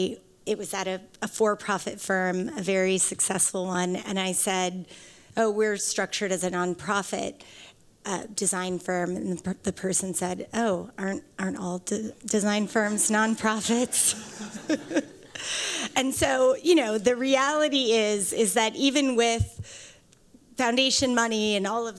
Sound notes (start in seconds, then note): 13.8 laughter